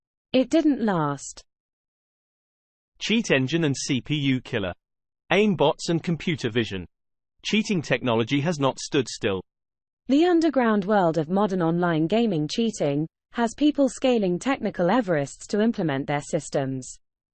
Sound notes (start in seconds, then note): 2.8 british male voice; 9.9 british female voice